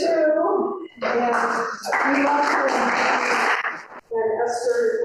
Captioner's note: audience applauding